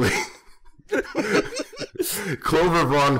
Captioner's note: laughter